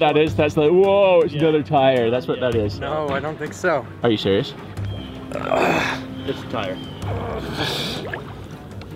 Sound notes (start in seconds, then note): 5.3 struggling